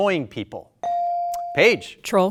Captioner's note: buzzer dings